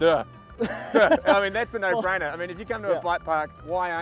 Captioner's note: laughs